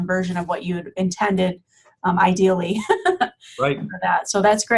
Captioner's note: laughing